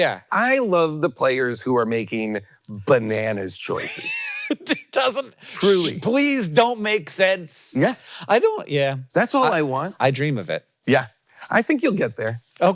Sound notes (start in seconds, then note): 3.7 Hank laughing